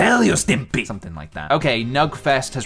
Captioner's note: normal voice